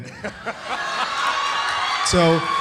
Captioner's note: audience cheering; audience applauds